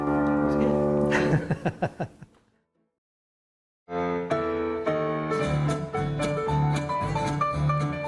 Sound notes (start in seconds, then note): 1.1 laughing